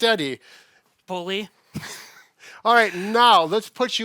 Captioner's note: chuckles